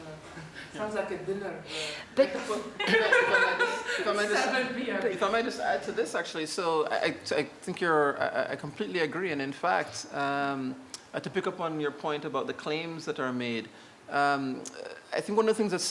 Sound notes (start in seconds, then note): 2.8 laughter